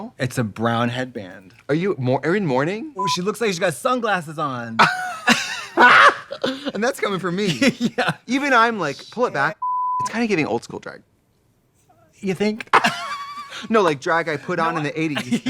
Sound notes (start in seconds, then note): 4.8 both laughing; 9.6 beep; 12.6 both laughing